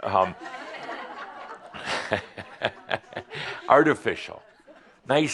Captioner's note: some chuckles